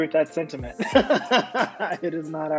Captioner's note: laughing